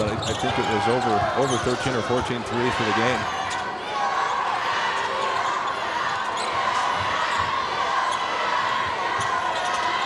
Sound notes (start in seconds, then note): 4.2 audience cheers